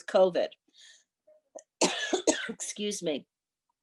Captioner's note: woman coughing